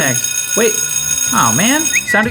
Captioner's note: school bell ringing